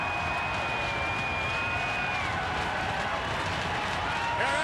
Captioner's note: crowd cheering